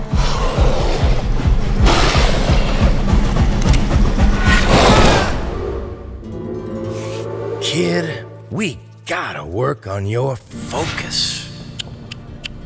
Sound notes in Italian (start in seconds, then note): 4.7 breve urlo